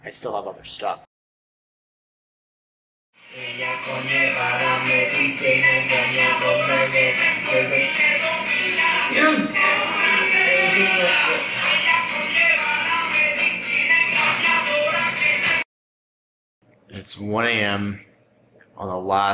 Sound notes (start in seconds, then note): 3.3 computer audio; 3.3 singing along in Spanish